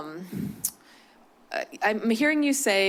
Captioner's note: clicks tongue